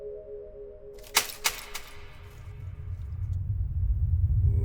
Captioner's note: wood breaks